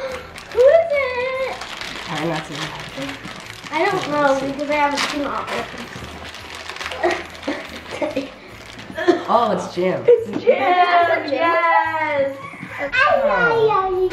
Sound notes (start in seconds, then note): 0.0 gasps; 1.6 plastic wrinkling; 6.4 plastic wrinkling; 13.1 babbles